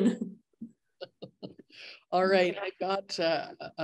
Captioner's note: laughs